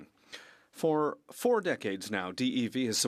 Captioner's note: speaking French